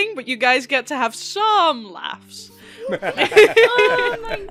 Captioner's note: laughter